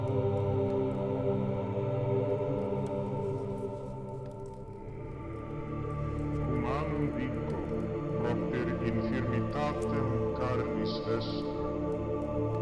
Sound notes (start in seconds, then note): 6.8 speaking in foreign language